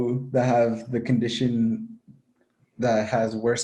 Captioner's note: laughing